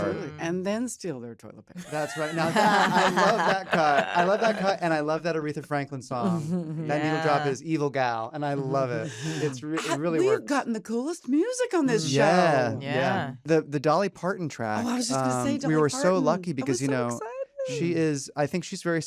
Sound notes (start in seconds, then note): 1.8 laughter; 12.0 all agreeing